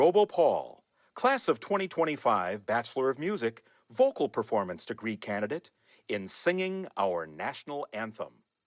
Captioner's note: none